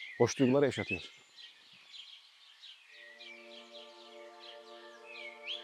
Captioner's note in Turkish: Kuş sesleri